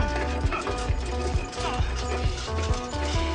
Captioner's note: cart rattling